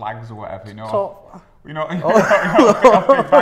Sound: laughing

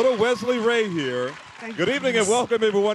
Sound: applause

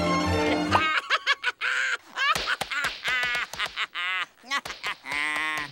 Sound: laughing

